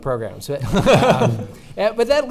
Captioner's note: laughing